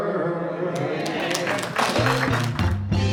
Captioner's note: applause